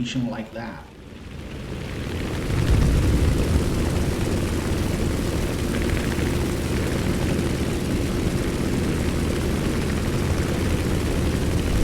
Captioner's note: aircraft Engines ,Gunfire, Flying Sounds